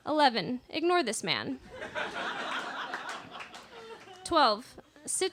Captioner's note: laughter